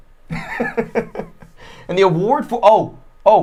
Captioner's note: laughing